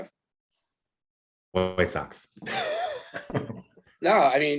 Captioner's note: laughs